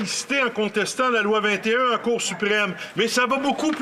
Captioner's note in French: voix de l'interprète